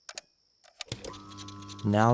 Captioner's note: clicking sound; cassette playing